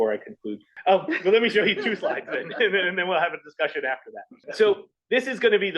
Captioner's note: laugh